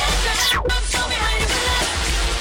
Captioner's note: clapping, cheering